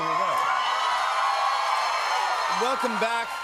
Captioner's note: cheers and applause